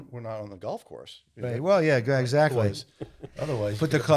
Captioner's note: panelist laughing